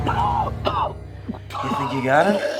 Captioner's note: coughing